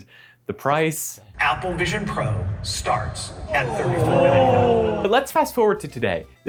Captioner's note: audience groans